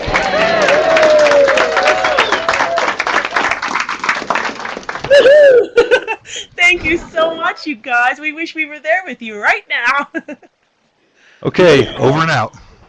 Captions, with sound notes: [ Cheering and Applause ] >> Woohoo [laughs]. Thank you so much, you guys. We wish we were there with you right now. >> OK. Over and out.